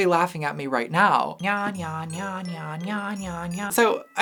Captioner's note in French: clochettes et grelots